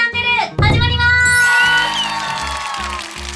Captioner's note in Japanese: ：拍手